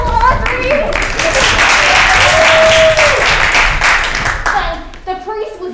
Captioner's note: crowd applauding